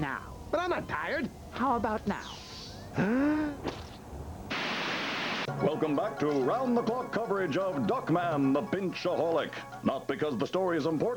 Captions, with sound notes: BUT I'M NOT TIRED. HOW ABOUT NOW? ( gasping ) Welcome back to 'round-the-clock coverage of Duckman the pinchaholic not because the story is important